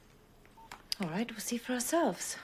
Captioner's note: phone beeping